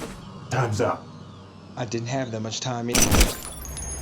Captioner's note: gunshot